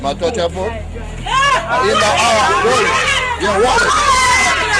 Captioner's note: speaking in foreign language; screaming